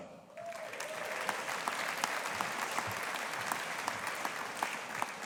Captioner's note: audience applauding